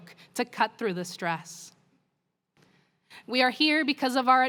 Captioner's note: none